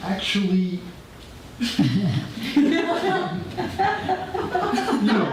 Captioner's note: audience laughter